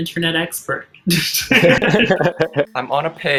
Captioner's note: all chuckling